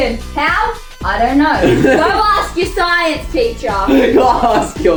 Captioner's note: laughs